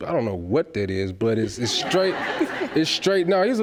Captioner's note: audience laughs